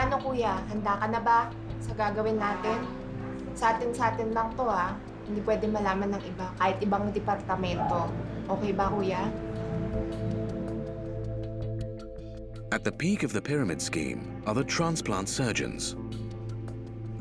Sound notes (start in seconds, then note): 3.8 speaks in foreign language